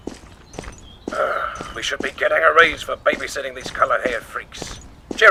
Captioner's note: groans